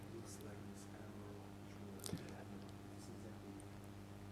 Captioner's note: man speaks softly